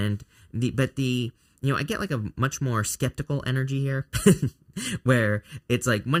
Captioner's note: chuckles